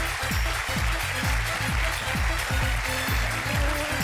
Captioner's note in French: applaudissements